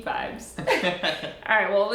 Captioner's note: laughing